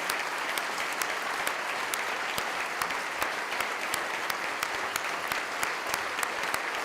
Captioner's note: clapping